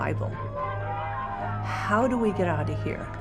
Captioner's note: crowd jeering